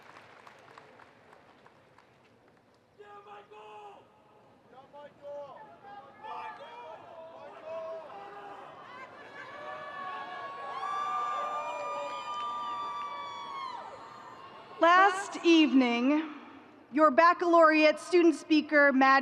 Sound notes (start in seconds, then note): 6.1 people shouting; 11.9 people cheering